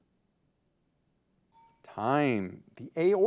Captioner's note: signal dings